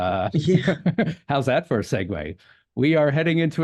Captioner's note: chuckle